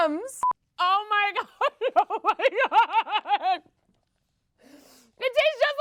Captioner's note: laughs